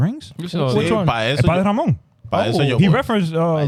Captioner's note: speaking In Foreign Language